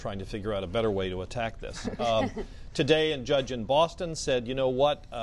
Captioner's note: laughter